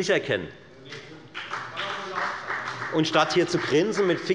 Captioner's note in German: Beifall bei der FDP